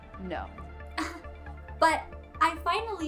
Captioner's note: Gigi laughs incredulous